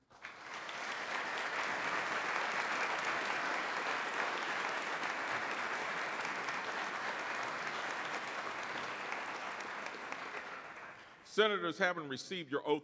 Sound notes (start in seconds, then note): 3.6 clapping enthusiastically